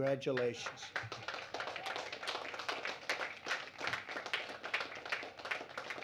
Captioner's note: applause